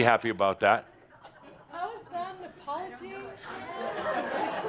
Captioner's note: laughter